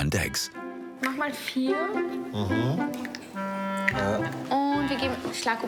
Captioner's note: speaking foreign language